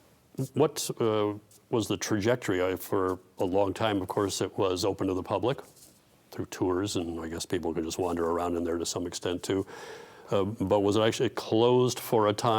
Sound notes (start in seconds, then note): none